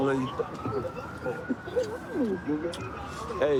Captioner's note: kissing noises